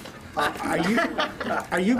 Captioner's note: laughing